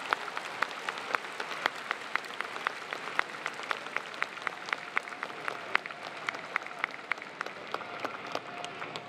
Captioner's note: applause